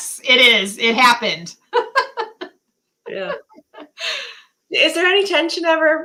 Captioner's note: laughter